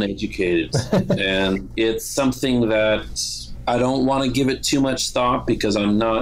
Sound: laughter

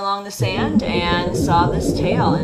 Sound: ocean whistling gently

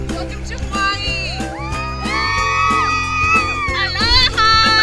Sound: women cheering

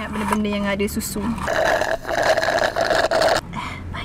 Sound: slurping sounds

